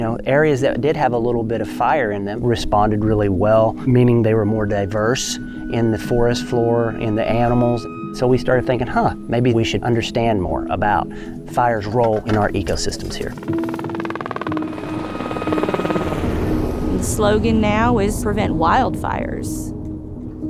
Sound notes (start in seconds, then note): 13.7 helicopter lifts off